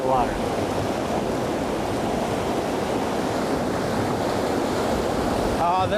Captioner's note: loud rushing water